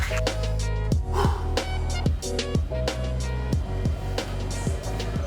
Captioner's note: breathes deeply